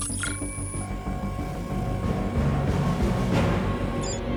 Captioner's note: device beeping; dramatic music continues